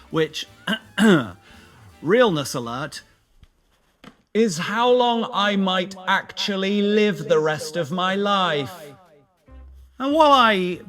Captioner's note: ahem